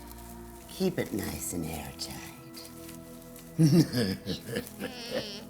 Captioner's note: laughing